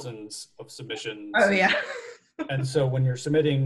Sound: chuckles

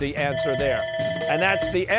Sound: bell ringing

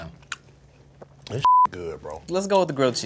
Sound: beep

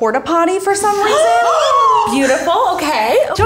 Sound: women gasping

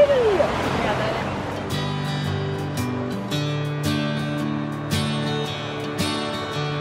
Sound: country music; water running

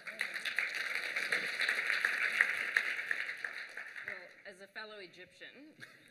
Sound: applause

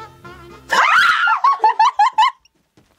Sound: screaming

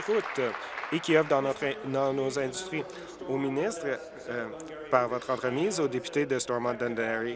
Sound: applause

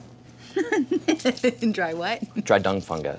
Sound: laughs

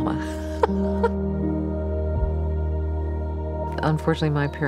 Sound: laughing

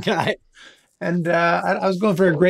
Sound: laughs

